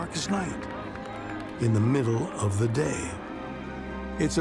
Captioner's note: crowd cheering